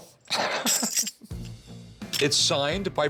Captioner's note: both laughing